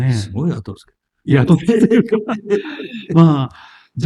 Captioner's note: laughs